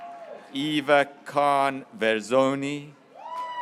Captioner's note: graduates cheering